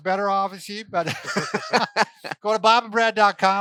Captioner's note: laughter